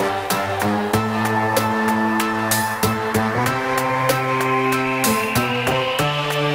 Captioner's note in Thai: ปรบมือ